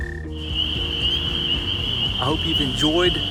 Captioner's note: frogs peeping